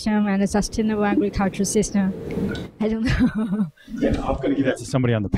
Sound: laughter

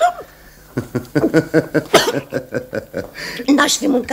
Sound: laughs

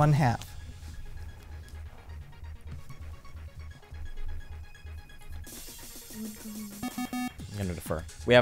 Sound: wispering

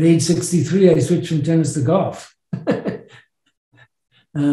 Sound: laughs

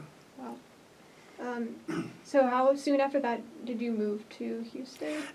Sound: clears throat

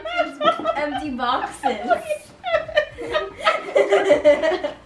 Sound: laughs

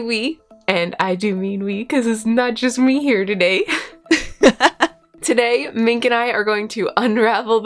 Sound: laughter

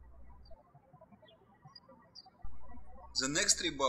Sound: birds chirping

